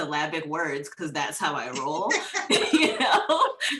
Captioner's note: laughs